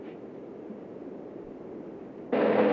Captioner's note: none